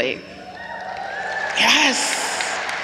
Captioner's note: audience cheers